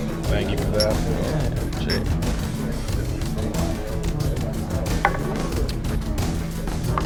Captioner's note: glasses clink